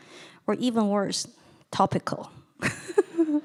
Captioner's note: laughing